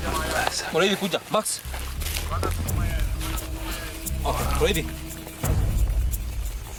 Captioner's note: man speaking a foreign language